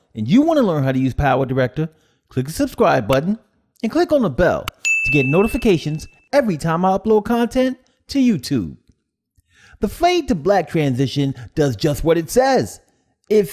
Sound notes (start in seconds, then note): 4.8 bell rings